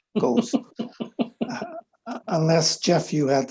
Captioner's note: people chuckling